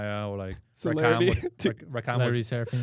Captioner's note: laughs